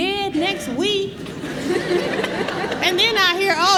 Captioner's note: laughter